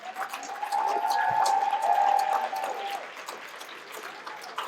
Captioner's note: cheers and applause